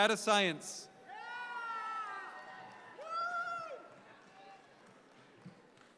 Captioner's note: audience member cheer loudly